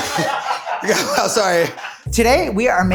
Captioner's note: laughs